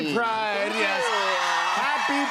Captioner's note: cheers and applause